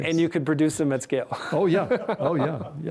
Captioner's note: both laughing